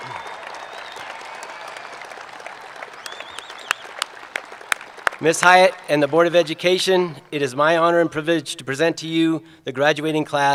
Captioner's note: applause